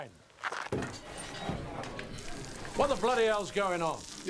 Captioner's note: patrons chattering